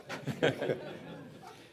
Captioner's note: laughter